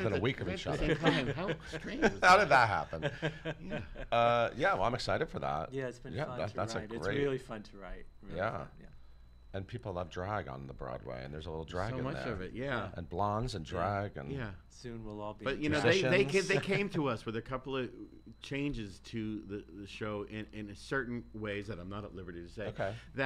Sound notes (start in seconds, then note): 2.8 laughs